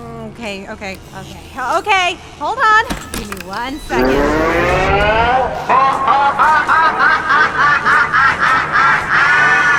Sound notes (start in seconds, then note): 4.9 machine warming up; 6.3 prerecorded maniacal laughter